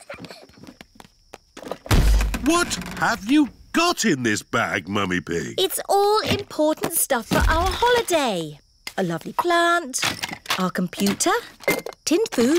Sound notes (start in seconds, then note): 0.0 peppa and george giggling; 1.8 thud